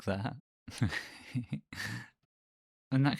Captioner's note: gay giggles